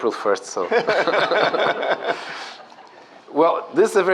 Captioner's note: laughter